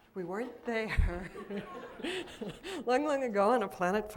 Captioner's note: laughter